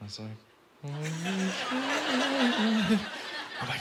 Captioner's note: laughter